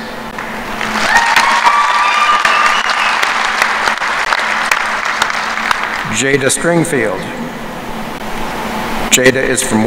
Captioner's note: applause